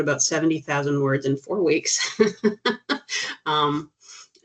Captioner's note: chuckling